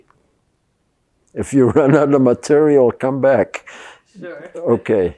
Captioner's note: laughing